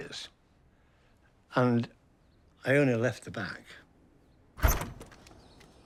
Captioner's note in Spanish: la puerta se abre